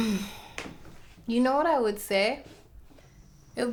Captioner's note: sighs